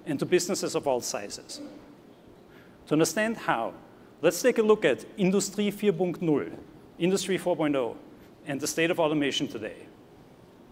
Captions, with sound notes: and to businesses of all sizes. To understand how, let's take a look at [NON-ENGLISH],, Industry 4.0, and the state of automation today.